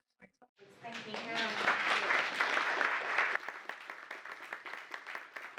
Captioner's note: applause